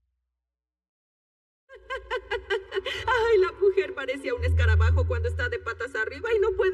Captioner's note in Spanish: Ríe